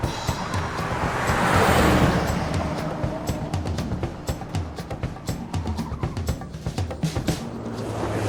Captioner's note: dramatic music; tires screeching